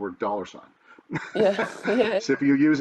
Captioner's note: laughing